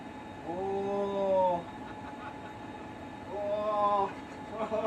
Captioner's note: laughing